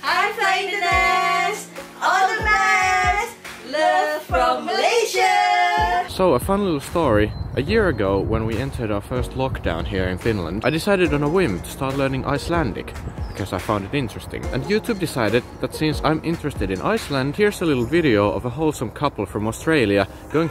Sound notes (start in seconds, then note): none